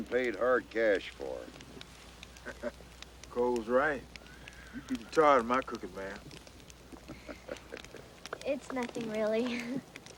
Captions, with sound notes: and paid hard cash for it. - (laughs) Cole's right, you beat the tar outta my cookin', ma'am. - It's nothing, really.